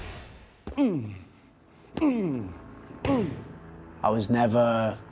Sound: grunting noises

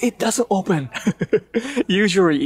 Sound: chuckle

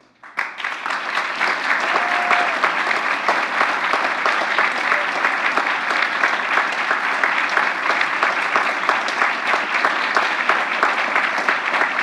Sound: applause

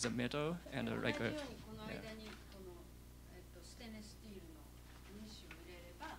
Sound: non-english speech

